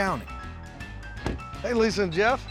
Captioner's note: door closes